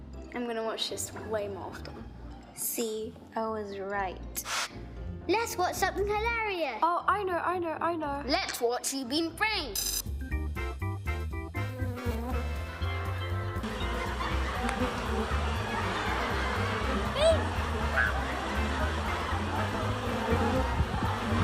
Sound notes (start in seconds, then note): 4.4 swish; 11.5 buzzing bee; 14.5 slap